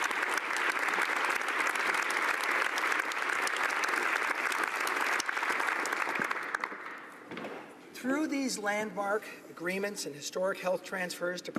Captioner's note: applause